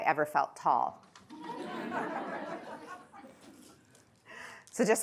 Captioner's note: laughter